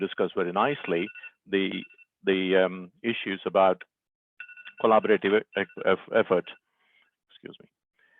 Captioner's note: alarm dings